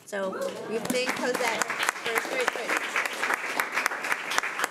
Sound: crowd clapping

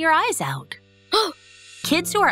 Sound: gasps

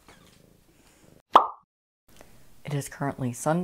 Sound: balloon popping sound

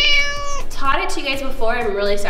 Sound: meow

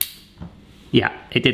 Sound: plastic snaps

